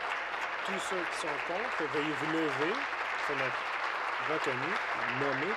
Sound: applause

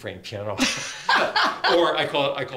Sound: laughter

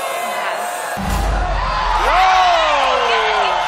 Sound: cheering, applause

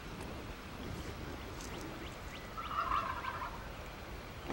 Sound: turkey gobbles

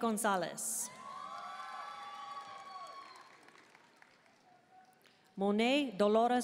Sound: audience cheering and applauding

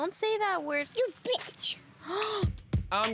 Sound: gasps

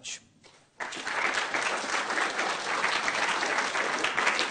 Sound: audience applauding

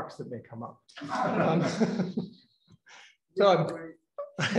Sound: laughter

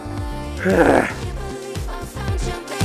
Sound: exhales

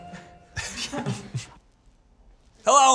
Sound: Zach and Eugene laugh

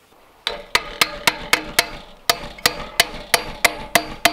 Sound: pounding

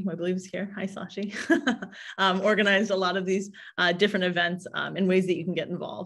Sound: chuckles

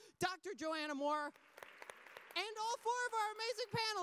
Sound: audience applause

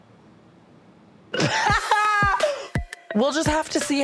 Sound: laughing

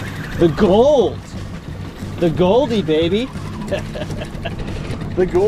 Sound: laughing

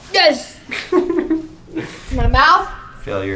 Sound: laughing

